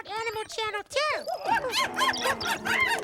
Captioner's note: hooting; roaring